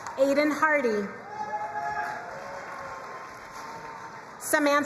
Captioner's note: crowd cheering and applauding